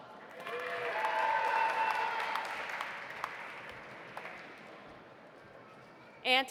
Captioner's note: audience applauding; audience cheering